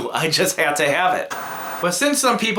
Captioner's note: static